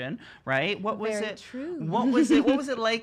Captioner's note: giggles